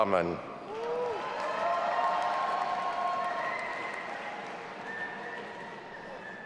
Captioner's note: audience applauding and cheering